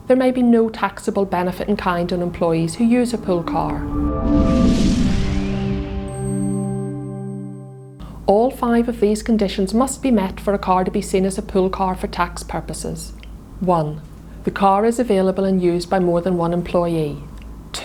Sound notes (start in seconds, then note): 2.6 melodic sting; 3.8 bell dinging